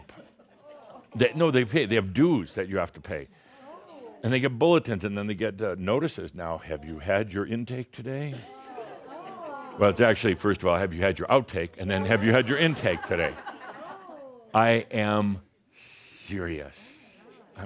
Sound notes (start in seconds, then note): 8.4 more Shaumbra say “Ohh!”; 14.6 laughter